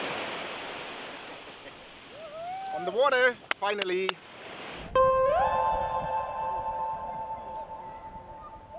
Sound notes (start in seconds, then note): 3.4 clapping